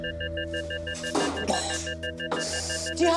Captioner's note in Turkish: Öksürdü